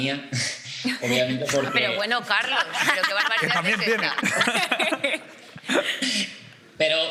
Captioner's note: they laugh